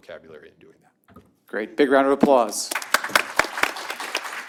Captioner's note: applause